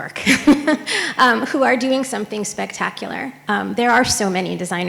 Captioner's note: laughs